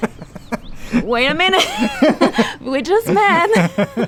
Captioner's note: both laughing